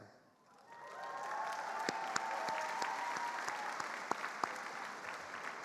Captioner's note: attendees applauding